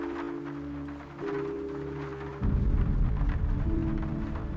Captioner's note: rain falling on roof